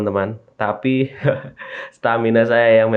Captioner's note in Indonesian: tertawa